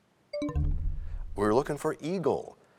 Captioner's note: bell chimes, time expires